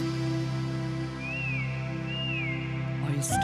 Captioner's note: whistle